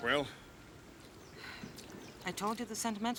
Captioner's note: sighs